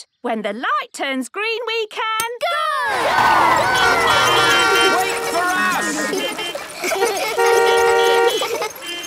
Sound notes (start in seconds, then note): 3.2 beeping; 5.8 laughter; 6.6 beeping